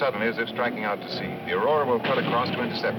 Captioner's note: cannon firing